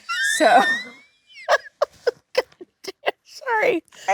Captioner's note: Jennifer laughing